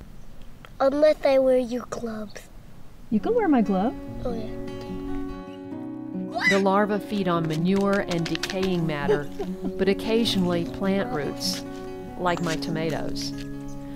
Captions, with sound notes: unless I wear your glove. You can wear my glove! Oh, yeah. (he shrieks) (Voiceover) The larva feed on manure and decaying matter, but, occasionally plant roots, like my tomatoes.